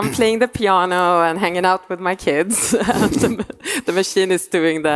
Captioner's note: laughing